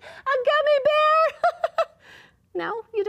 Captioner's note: laughs